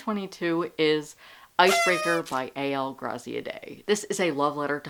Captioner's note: party horn